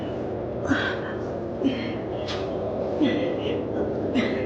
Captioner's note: Luna grunting continues